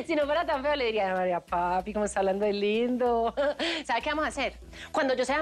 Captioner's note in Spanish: Ríe